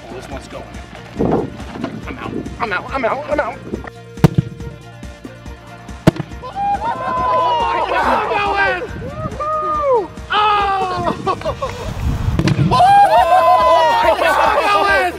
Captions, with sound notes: - Oh this one's going. I'm out, I'm out, I'm out, I'm out. (exploding) (laughing) - [Crowd] Whoa! (laughing)